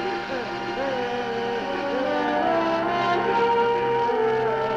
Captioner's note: Lobo sobbing